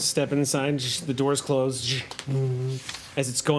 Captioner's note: whooshing